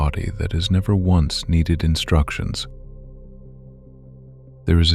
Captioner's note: low voice